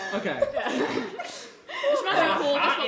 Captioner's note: laughing